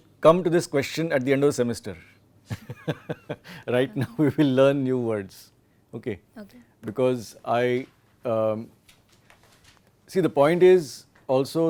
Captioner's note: laughs